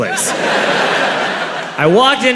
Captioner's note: crowd laughs